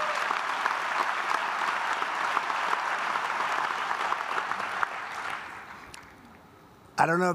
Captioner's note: applause